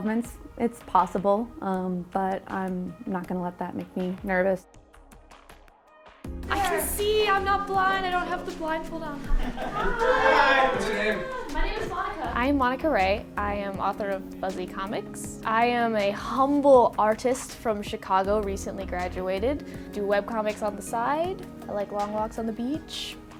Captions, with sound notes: It's possible, but I'm not going to let that make me nervous. I can see! I'm not blind! I don't have the blindfold on! [chorus of 'hiii'] -What's your name?- My name is Monica! I'm Monica Ray. I am author of Phuzzy comics. I am a humble artist from Chicago recently graduated do web comics on the side. I like long walks on the beach.